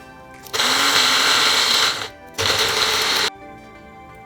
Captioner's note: blender whirring